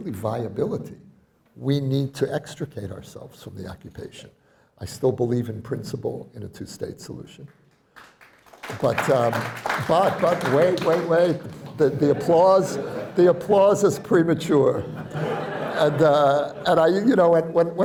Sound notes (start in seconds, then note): 7.4 applause; 14.5 laughter